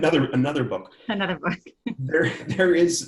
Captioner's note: laughs